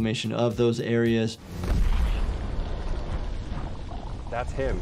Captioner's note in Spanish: C4 explotando